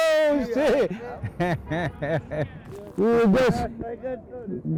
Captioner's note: chuckles